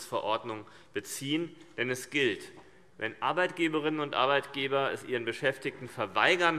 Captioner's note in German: none